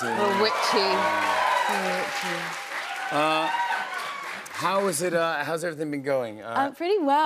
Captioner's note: cheers and applause